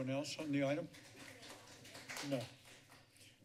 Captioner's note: clapping